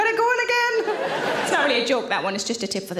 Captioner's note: audience laughs